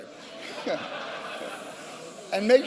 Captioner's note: laughter